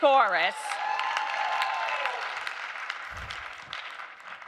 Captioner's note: audience cheering